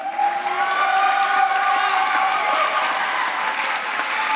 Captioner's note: applause